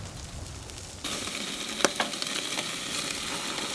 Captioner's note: cooking pork belly ASMR